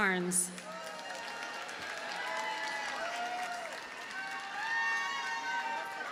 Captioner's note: audience cheers and applauds